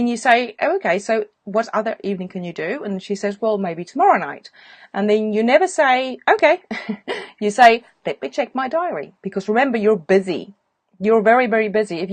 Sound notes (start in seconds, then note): 6.7 chuckles